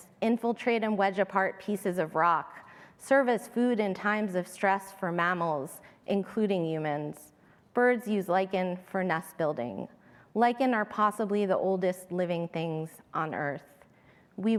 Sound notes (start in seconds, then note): none